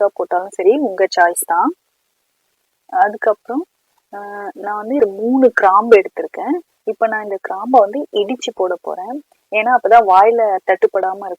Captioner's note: crushed